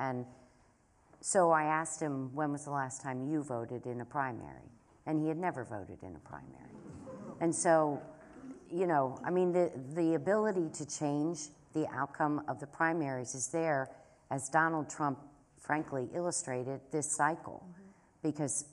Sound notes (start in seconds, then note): 6.9 laughter